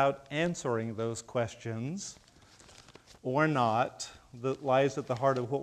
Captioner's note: none